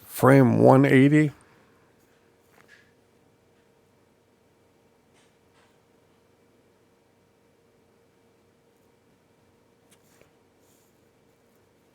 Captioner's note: silence